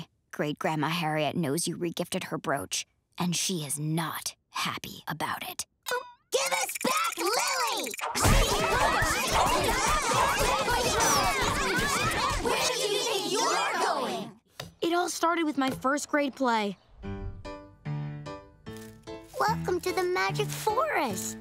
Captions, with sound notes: Great Grandma Harriet knows you regifted her brooch and she is not happy about it. Give us back Lily! [arguing] Where do you think you're going? It all started with my first grade play. Welcome to the magic forest.